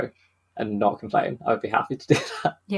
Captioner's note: laughs